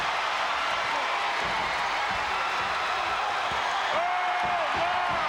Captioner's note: crowd cheering